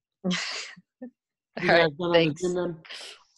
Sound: laughs

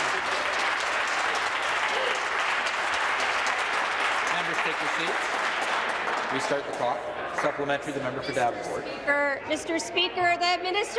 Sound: applause

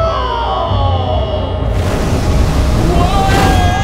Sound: ignition

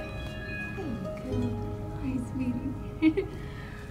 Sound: laughter

